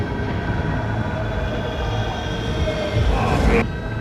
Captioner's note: haunting wail